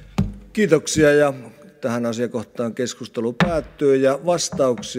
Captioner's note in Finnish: kopauttaa nuijaa